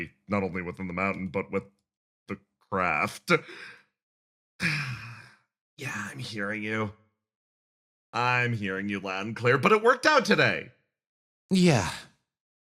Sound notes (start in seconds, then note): 4.6 sigh